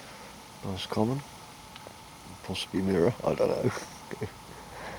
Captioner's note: laughter